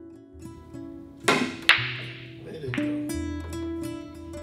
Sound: pool balls crack

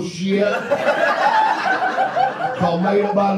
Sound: audience laughs

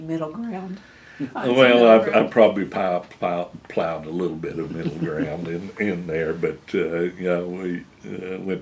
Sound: laughter

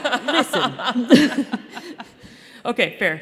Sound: laughter

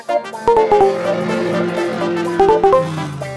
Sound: car engine revving

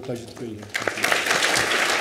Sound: applause

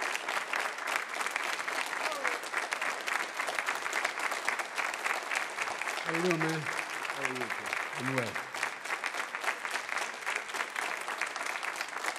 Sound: applause

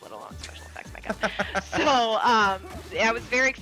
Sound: laugh

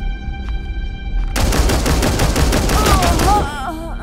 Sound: shooting sounds

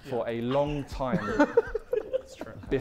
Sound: Sidemen laughing

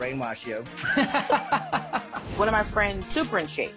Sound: laughs

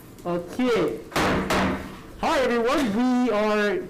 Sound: gavel bangs twice

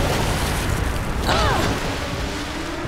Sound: grunting

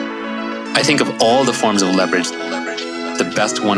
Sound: male Voice

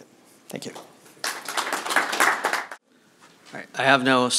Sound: applause

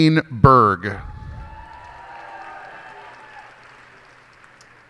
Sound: cheers and applause

